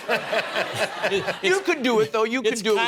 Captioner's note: laughter